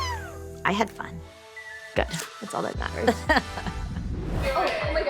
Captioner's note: laughs